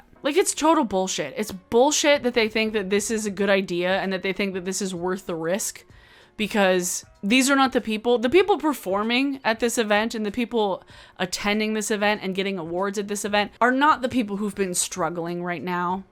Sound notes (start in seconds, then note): none